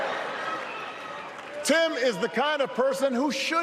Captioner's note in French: applause